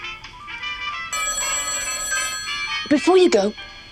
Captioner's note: phone ringing